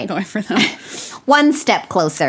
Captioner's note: laughs